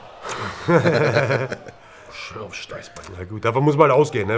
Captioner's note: lachen